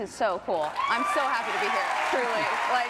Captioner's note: audience cheers and claps